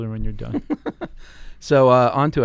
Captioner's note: laughing